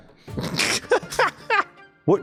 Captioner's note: cackles like a witch in training